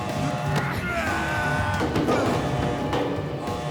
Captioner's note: groans